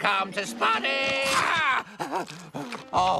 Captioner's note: chomp!